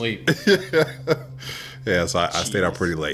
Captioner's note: laughs